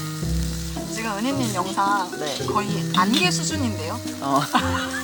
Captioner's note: laughter